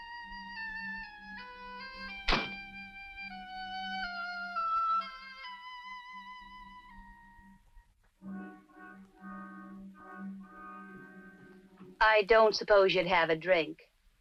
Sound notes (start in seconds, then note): 2.3 door thuds